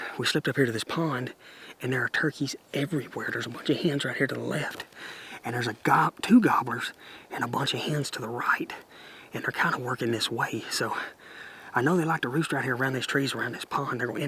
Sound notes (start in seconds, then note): none